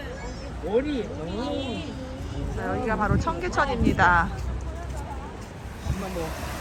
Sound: people's voices

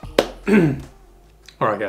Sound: clears throat

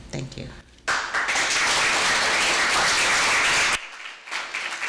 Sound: audience applauding

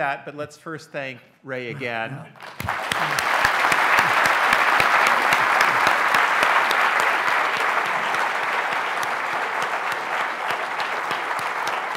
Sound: audience claps

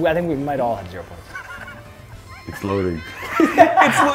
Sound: laugh

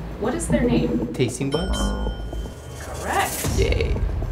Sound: high pitched bell dings

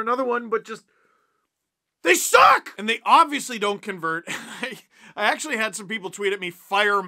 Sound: laugh

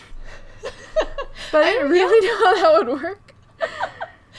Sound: laughs

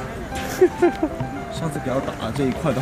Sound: lots of laughs

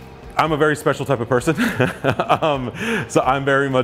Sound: laughs

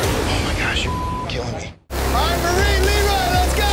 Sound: beep

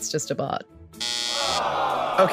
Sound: SOT: buzzer, crowd sigh

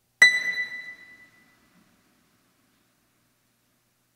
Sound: keyboard rings

